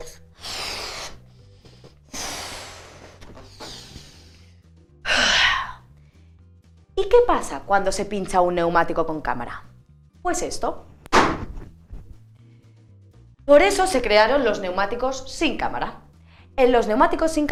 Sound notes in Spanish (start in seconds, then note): 5.0 suspira